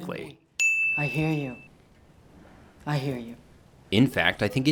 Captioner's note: bell dings